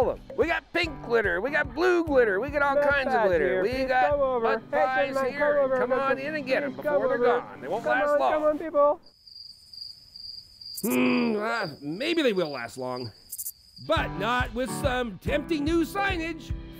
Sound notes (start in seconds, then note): 9.0 cricket chirping; 10.8 grunts